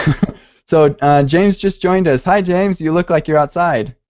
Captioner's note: laughs